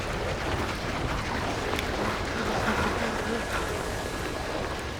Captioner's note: panting